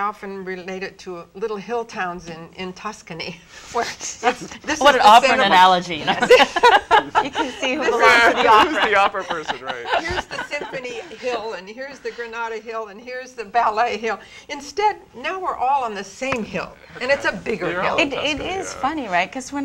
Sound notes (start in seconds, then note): 5.8 laugh